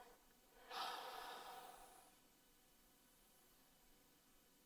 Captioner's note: deep sighing